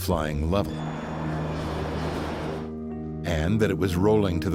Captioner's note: airplane engine roaring